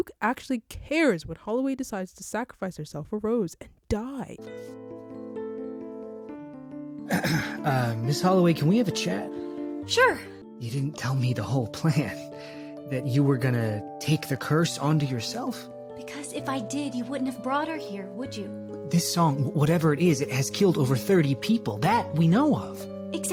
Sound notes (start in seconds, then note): 7.1 clears throat